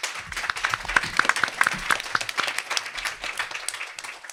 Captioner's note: applause